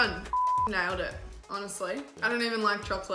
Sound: beep

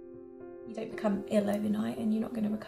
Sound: voiceover

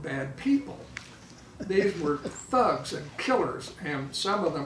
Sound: laughing

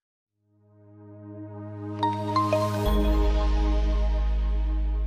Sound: logo chiming

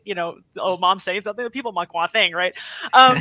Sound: speaks in foreign language

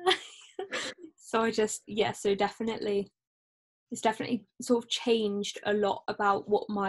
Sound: both laugh

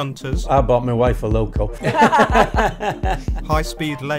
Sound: laughter

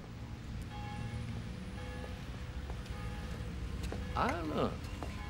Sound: bell ringing

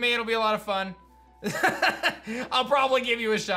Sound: laughs

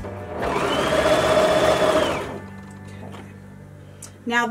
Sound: machine buzzing

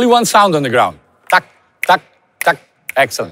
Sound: counting beats

